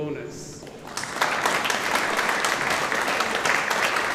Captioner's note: audience applauding